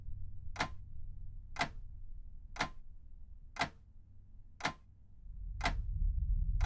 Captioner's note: clock ticking loudly